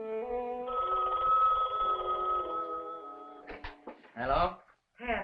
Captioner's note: phone ringing